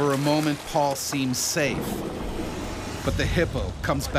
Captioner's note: voiceover